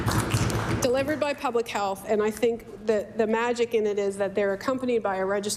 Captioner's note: applause